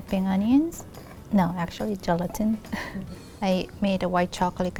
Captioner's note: laughing